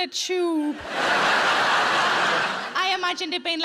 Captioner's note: audience laughing